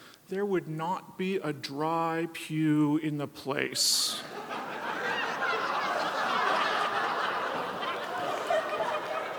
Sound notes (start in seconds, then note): 4.2 audience laughs